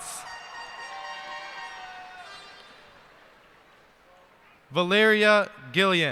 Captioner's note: cheers and applause